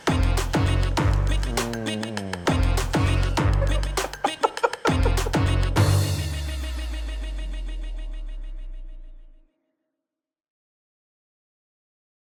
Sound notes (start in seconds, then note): 3.0 laughs